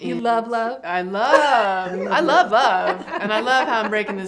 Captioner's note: laughs